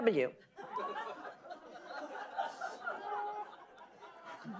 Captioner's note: audience laughing